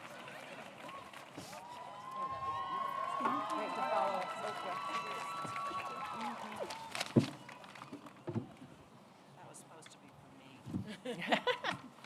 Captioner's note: applause